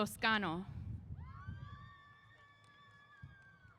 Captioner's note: cheers